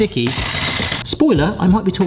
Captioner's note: headwhisk whirs